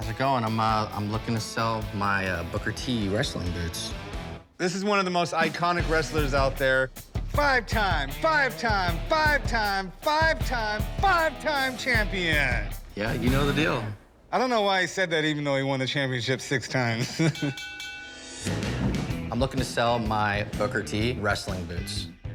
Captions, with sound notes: I'm looking to sell my Booker T wrestling boots. - This is one of the most iconic wrestlers out there. Five-time! Five-time! Five-time! Five-time! Five-time champion! - Yeah, you know the deal. - I don't know why he said that even though he won the championship six times. [bell dings] - I'm looking to sell my Booker T wrestling boots.